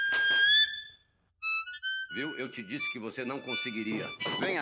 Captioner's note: chuckling